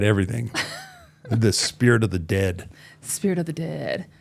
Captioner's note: chuckling